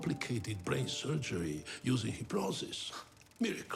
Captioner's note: chuckles